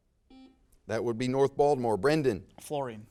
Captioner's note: buzzer sounds